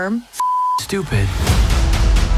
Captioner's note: beeping